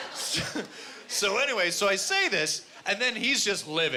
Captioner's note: in normal voice